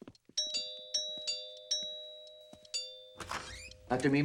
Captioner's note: doorbell rings